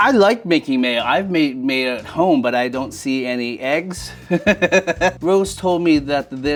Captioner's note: laughs